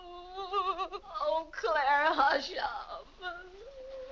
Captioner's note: weeping; soft sad music